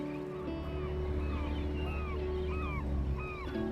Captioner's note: sea gulls squawking